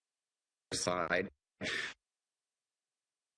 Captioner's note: audio interference